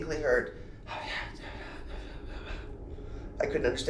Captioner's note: whispering Sounds